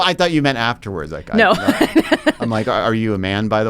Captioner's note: laughs